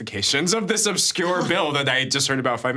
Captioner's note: chuckling